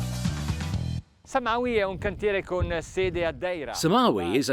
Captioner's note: speaks in foreign language